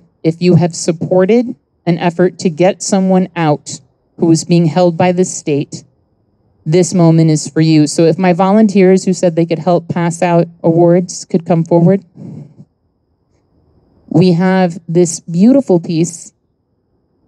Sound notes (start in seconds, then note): none